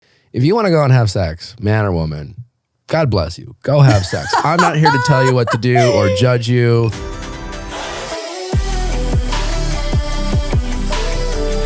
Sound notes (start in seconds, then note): 3.8 laughing; 6.9 bright upbeat music